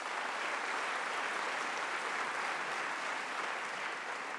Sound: applause

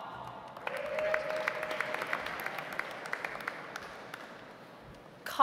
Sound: audience applauds

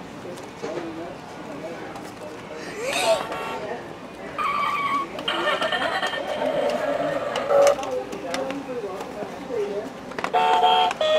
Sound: car honk

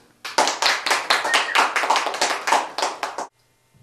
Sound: applause

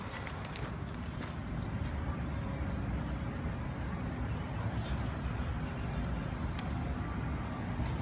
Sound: city traffic in distance

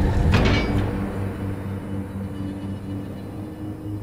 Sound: door clanking

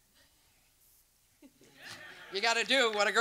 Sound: silence; audience laughs

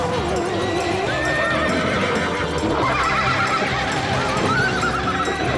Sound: horse neighing

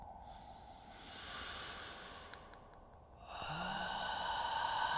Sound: loud breathing

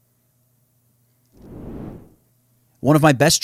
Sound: swooshes

